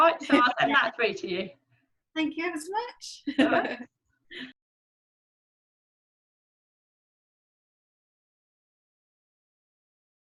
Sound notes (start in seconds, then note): 3.3 laughs